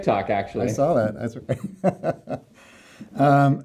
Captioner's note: laughs